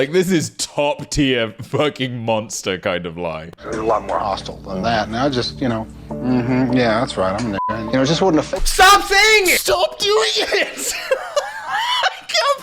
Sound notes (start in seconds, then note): 7.6 beep; 10.1 laughing